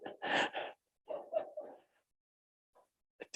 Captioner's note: chuckles